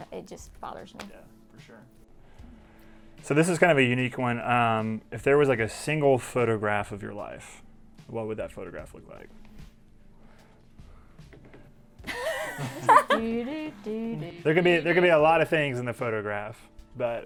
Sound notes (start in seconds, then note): 12.0 laughs